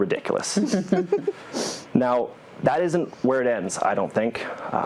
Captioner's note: laugh